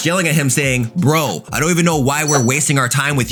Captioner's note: bell rings